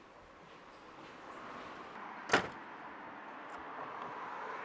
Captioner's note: Door shuts as Martin leaves